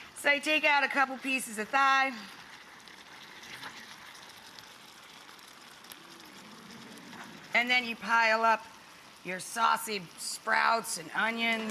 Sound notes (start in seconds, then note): 6.5 audience gasps